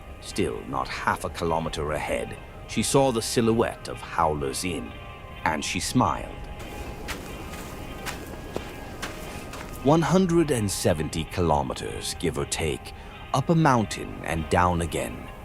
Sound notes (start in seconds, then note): 6.4 walking sounds